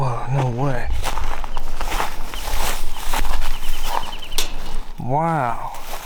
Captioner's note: footsteps crinkle